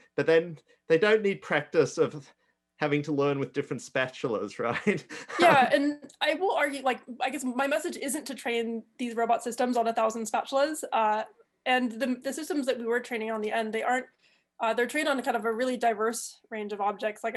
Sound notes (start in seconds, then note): 4.7 chuckles